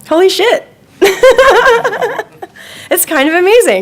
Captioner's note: laughing